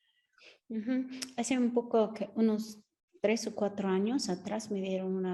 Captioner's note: speaking Spanish